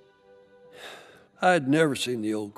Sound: Smokey sighs

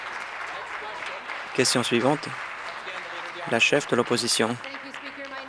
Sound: applause

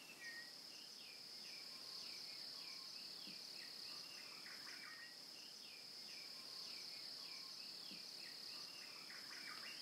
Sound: birdsong

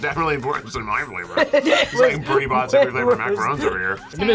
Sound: laughs

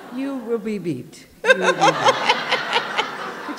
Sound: laughter

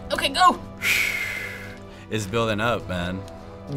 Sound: sharp exhale

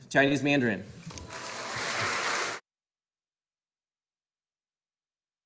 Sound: audience applauding

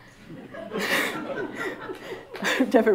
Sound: laughter

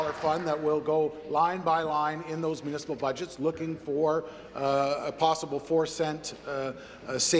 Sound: applause

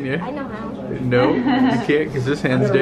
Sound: laughing

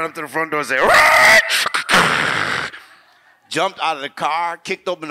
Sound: mimics tire squeal and door slam

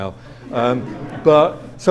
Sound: audience laughs

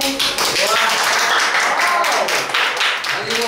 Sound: clapping

